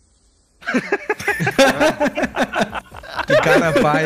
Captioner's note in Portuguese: risos